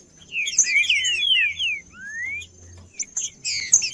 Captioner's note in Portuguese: trinca ferro cantando